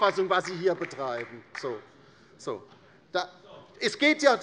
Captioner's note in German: Beifall bei der LINKEN